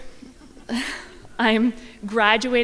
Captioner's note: crowd laughing